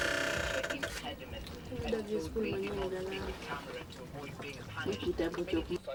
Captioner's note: family speaking in non-English